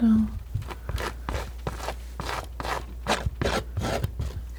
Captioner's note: scratching